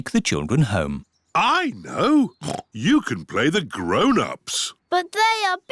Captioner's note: oinks